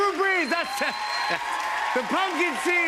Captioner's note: cheers and applause